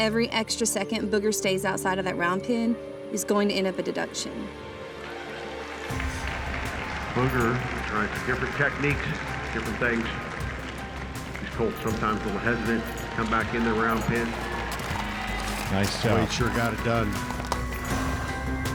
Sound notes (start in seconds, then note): 5.5 tense music; 15.5 crowd cheering